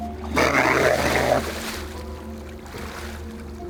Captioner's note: water splashes